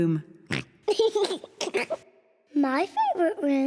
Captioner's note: chuckles; oinks and laughs